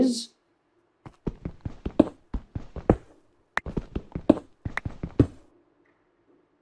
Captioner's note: thumping and clicking noise